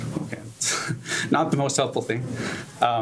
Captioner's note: scoffs